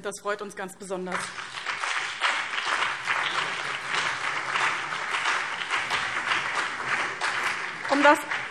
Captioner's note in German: Beifall BÜNDNIS 90/DIE GRÜNEN und CDU